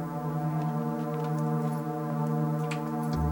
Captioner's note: keys jangle